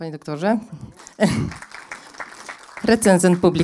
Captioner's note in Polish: oklaski